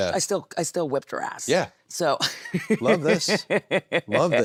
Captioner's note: Nattie laughs